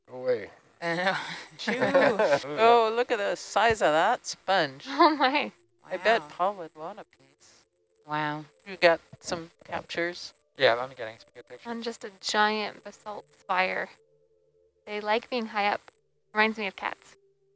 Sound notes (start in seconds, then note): 1.6 chatter; 10.6 male Voice